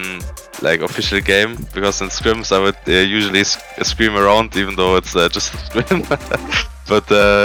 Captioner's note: chuckles